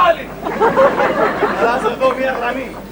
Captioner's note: γέλια